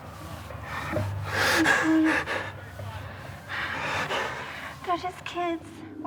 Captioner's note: crying